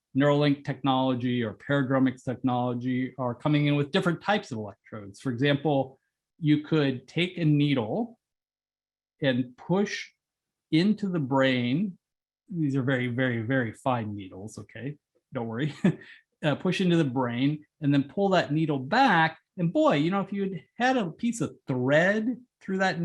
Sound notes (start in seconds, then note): 14.6 laugh